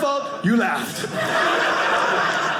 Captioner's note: audience laughing